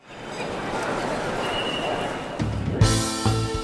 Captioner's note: traffic passing; jazzy music